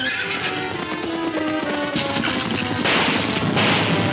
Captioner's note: gunfire pops